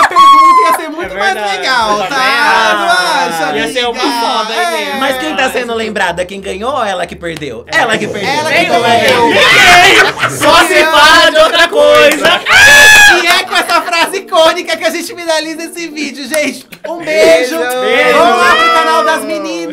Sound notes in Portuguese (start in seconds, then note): 9.4 risos; 12.4 gritos